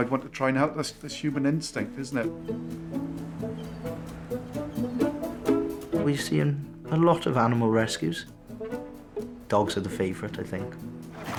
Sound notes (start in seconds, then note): 2.4 energetic music; 3.4 birds chirping